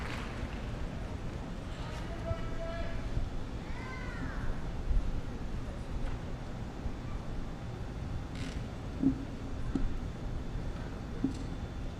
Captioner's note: applause